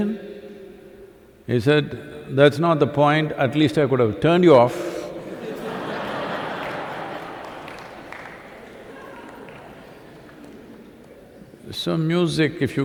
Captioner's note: laughter/Applause